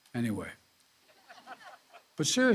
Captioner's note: laughter